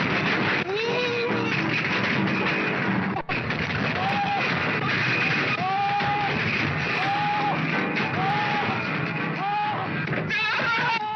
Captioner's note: piano crashing; piano crashing and man screaming